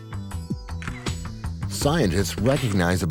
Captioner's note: camera shutters